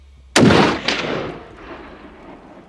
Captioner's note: gunshot